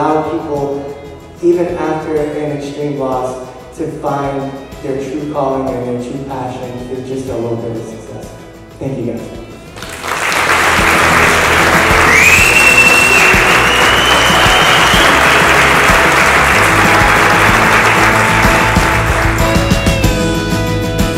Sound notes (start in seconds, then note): 9.7 applause